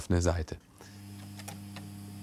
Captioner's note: quiet whirring